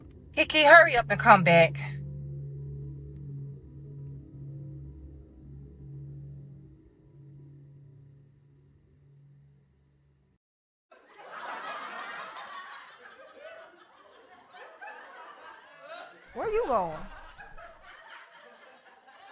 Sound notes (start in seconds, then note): 10.8 TV lulling